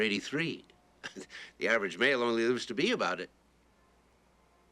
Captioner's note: chuckles